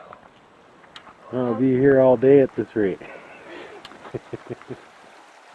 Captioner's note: laughter